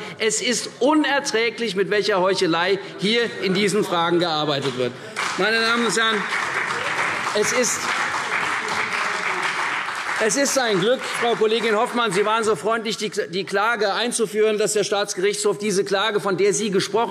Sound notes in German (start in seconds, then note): 5.1 Beifall CDU und vereinzelt BÜNDNIS 90/DIE GRÜNEN